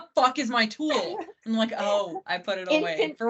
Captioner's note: both laughing